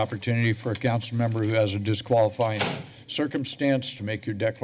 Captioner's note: door slams